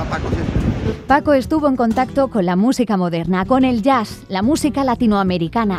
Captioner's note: speaking in Spanish